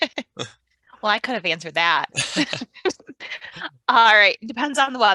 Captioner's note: laughs